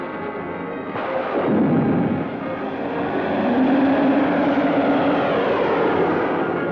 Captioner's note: interplanetary space projectile blasting